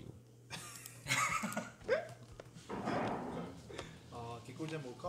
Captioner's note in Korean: 웃음